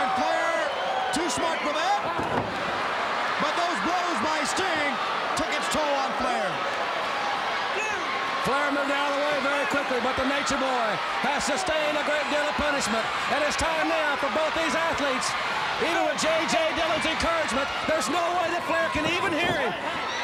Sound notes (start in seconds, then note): 2.0 Ric thudding on ring; 2.3 crowd cheering